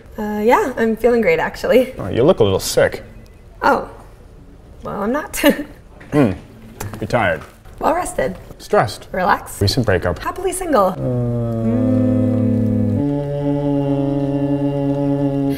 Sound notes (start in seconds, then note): 5.4 chuckles